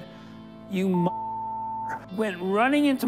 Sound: beep

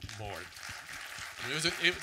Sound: audience clapping

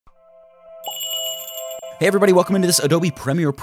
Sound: magical jingle

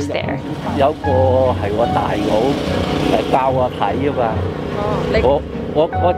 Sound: Cantonese

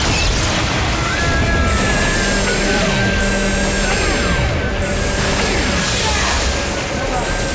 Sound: screaming

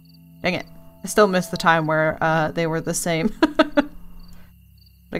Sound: laughs

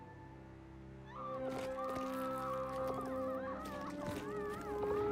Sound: screaming

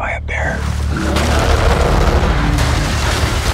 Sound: bear growling

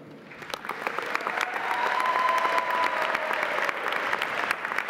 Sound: audience applauding

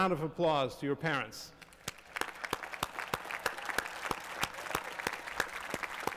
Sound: applause

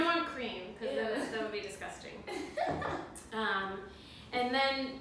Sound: laugh

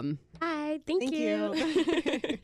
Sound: laughs

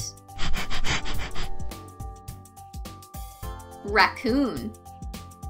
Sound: rabbit panting

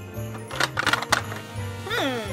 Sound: toy rattling

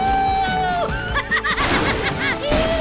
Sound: laughing

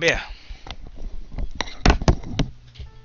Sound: headphones being removed and dropped on table

